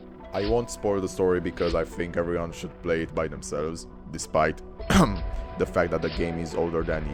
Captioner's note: ehem